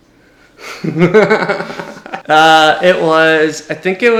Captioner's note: laughs